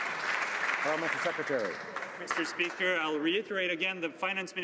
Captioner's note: some Applause